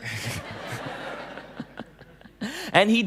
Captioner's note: laughing